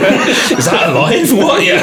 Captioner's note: laughing